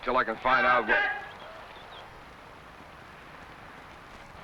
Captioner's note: man shouts